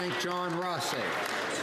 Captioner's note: some Applause